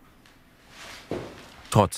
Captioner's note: rustling